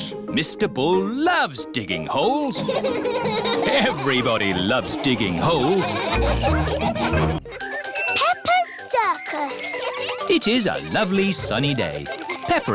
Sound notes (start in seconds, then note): 2.6 all laughing; 7.4 children giggling